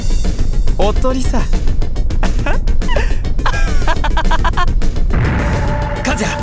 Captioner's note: laugh